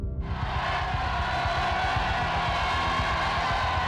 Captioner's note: crowd cheering